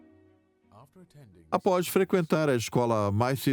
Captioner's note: voiceover